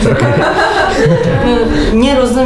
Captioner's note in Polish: śmiechy